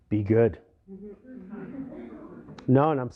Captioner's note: laughter